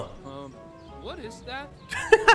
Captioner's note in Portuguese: risos